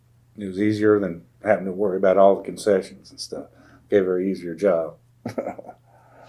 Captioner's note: laughs